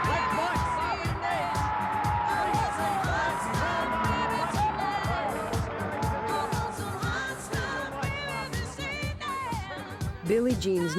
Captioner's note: audience cheers, music